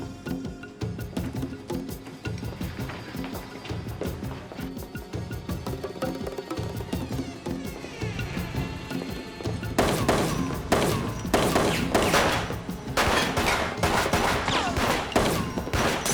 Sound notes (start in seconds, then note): 9.8 gunfire